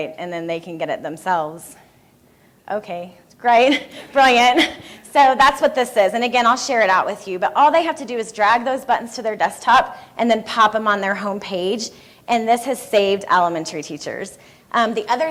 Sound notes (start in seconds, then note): 3.7 laughing